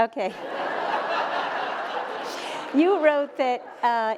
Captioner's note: laughter